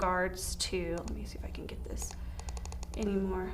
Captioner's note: mouse clicking